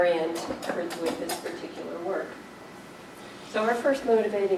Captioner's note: clanking drowns out speaker